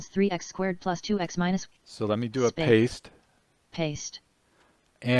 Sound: synthesized speech

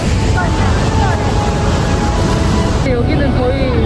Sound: the waterfall splashes a lot of water

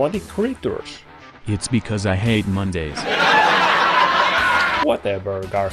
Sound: canned laughs

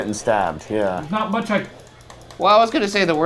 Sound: mouse clicking

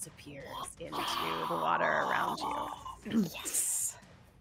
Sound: players whisper cheer

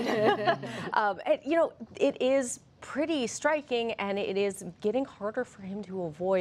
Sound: laughter

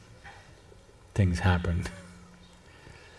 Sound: laughs

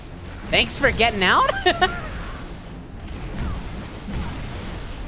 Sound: laughing

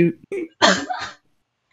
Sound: distant laugh

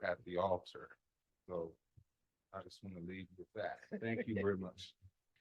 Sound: laughter

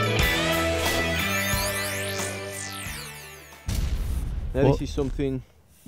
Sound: buzzing

